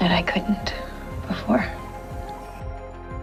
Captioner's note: voiceover